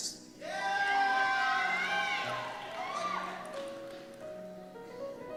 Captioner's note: cheers